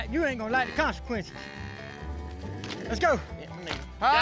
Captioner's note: cow mooing